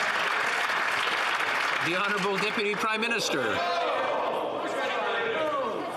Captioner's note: some Applause